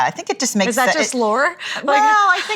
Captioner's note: laugh